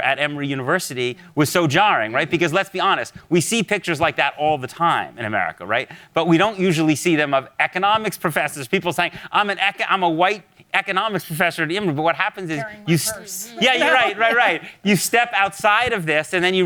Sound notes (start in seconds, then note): 12.5 panelists laugh